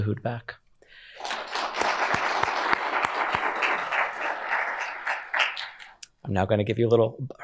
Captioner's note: applause